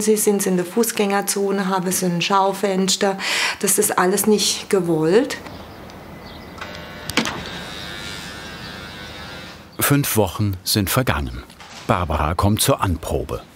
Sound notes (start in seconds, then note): 6.2 door buzzer